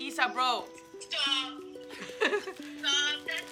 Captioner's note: laughter